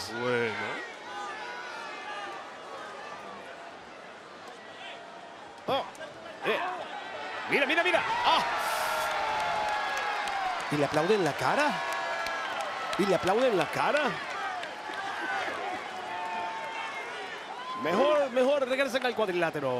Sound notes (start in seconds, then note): 1.7 applause